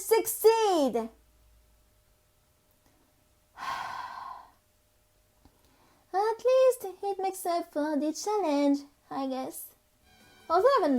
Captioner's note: sigh